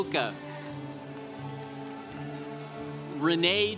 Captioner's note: congregation applauding